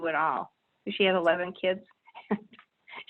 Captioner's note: chuckles